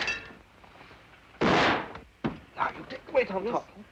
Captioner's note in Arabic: طلق ناري; طلقات نارية